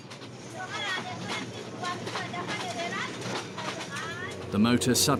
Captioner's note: indistinct chatters